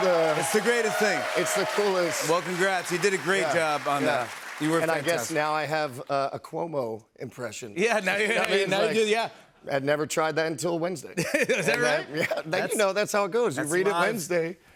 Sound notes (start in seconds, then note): 11.2 chuckles